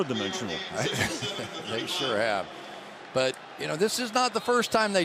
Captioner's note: laughs